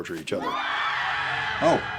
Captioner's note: screams